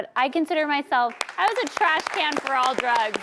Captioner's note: audience claps